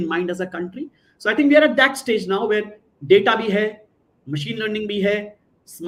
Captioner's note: non-english speech